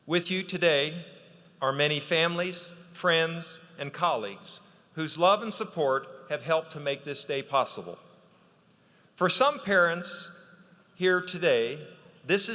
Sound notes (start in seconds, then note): none